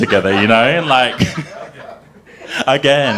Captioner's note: group chuckling